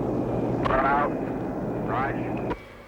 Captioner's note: garbled speech over radio